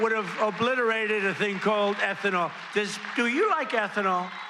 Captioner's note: cheers and applause